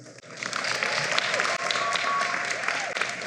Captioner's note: applause